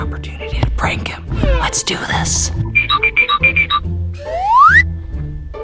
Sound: sound effects

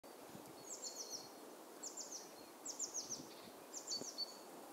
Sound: birds chirping

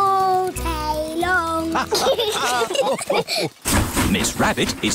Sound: laughter

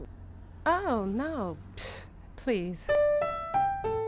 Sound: scoffs; piano music

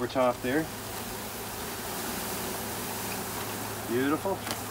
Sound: bees buzzing

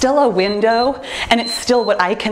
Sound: timer beeps

